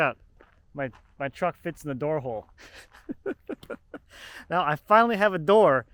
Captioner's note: chuckles